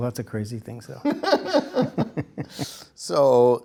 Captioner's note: laughter